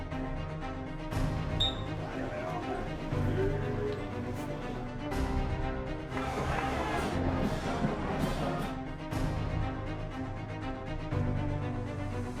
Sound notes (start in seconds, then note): 1.6 whistle blowing; 6.2 yelling; 7.4 band playing